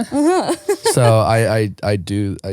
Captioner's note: laughing